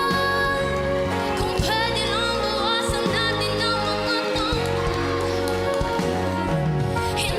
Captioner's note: applause